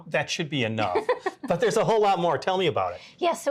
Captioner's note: laughing